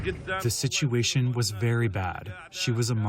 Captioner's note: through translator